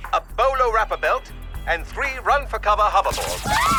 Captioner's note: the spies scream